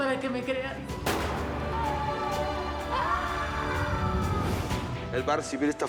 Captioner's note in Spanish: gritos de sara